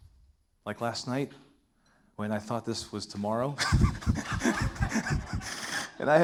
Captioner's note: laughs